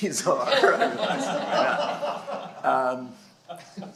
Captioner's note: laughter